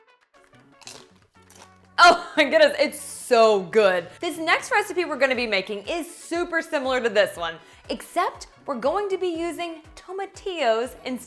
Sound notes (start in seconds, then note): 0.5 chip crunches